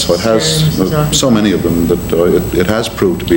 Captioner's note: faintly speaking